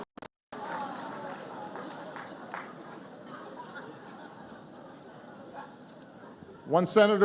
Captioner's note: laughter